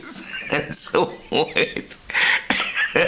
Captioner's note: laughing